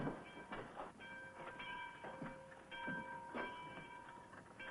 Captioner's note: church bell ringing